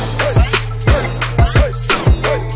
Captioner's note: sonic Boom